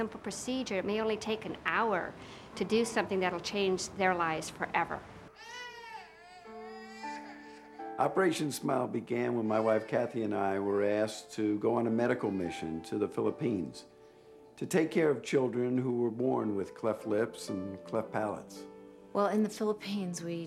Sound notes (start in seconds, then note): 5.3 child crying